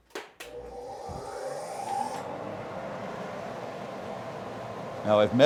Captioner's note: dust Collector Noise